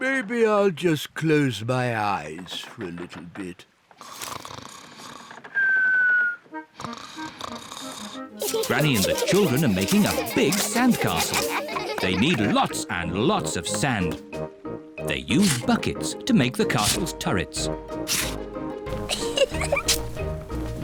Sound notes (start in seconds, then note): 4.0 snores; 18.9 giggles